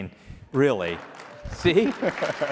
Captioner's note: applause